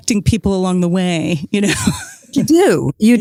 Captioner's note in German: Lacht